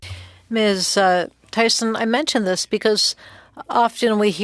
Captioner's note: speaking French